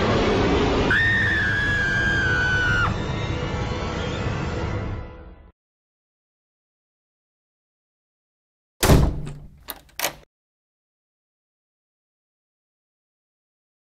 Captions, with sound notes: AAAAAAAAAAAAAAAAAaaaaaaaaaaaAAAAAAAAAAAAAAAhhhhhhhhhhhhhhHhHHHHHHHHHHHHHHHHHHh!!!!!!!!!!!!!!!!!!!!!!!!!!!!!!!!!!!!!!!!11111111111111111111111111111111111 (door slam) (door locking)